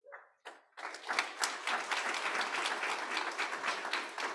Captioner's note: audience applauding